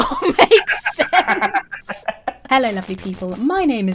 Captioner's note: both laugh